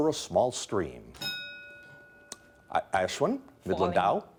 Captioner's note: bell dinging